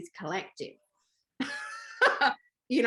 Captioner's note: laughter